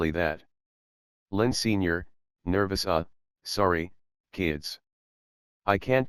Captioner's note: nervous